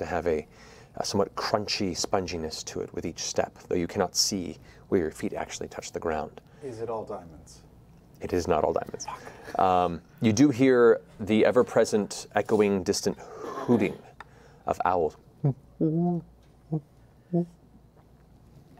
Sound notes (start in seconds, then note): 15.2 owl hooting